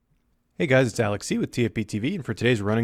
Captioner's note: voiceover